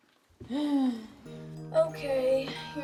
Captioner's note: Arizona sighs